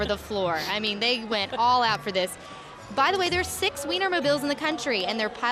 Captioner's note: laughing